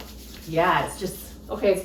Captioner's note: none